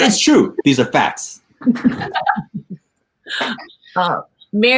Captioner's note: laughing